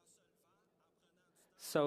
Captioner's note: speaking FRENCH